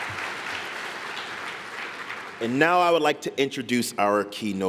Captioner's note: applause